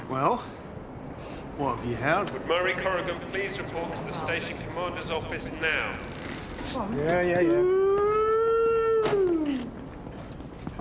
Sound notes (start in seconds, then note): 2.2 Harper over P.A